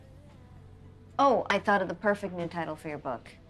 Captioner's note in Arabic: none